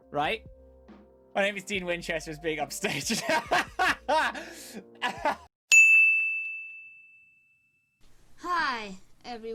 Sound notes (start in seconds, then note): 4.9 laugh; 5.7 ding